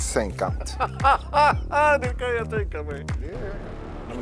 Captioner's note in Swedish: Skratt